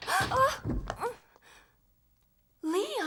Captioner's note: whimpers